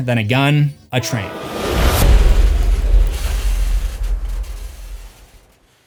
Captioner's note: train sfx; impact